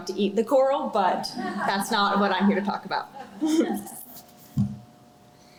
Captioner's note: laughter